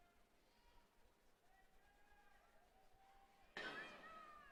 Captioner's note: laughter